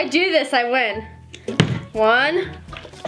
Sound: bottle landing

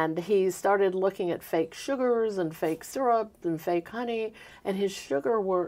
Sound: none

